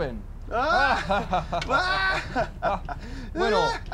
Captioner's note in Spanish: Todos rien